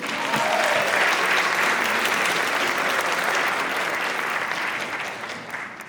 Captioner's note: applause